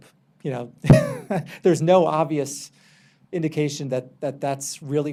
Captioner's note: laughs